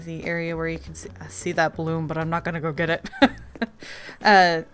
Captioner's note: laughs